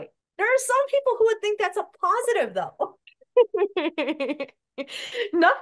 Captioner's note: laughs